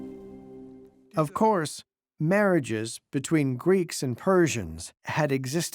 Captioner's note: in German